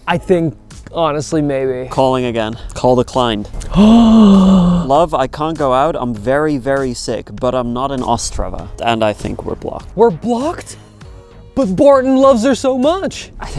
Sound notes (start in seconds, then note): 3.5 gasps